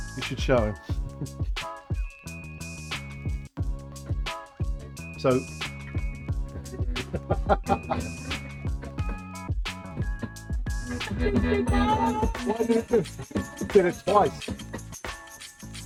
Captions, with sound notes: You should show him. So. [LAUGHTER] Why did you do that? Why did you do that? You did it twice.